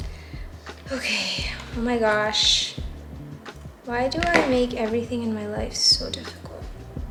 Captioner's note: sigh